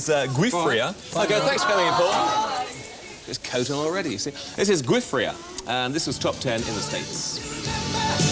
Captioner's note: kids, disappointed